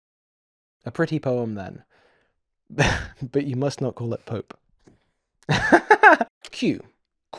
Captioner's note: laughter